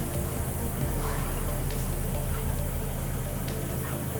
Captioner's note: lift engine hums; upbeat music